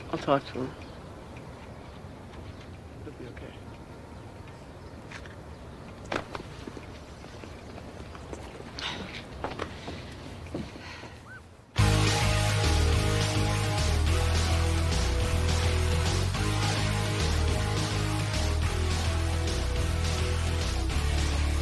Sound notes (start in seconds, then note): 10.8 Alice sighs; 14.9 upbeat rock music